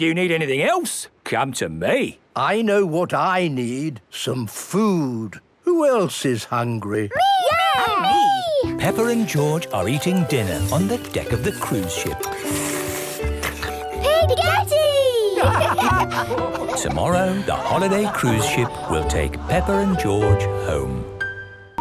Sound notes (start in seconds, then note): 13.0 slurping; 15.2 all laugh